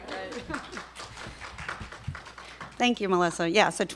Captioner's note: applause